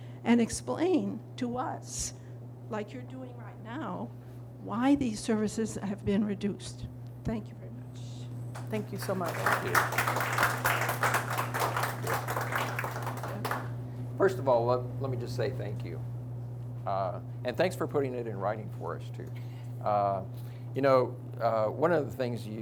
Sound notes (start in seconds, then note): 10.5 audience applauds